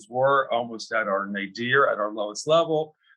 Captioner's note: faintly speaking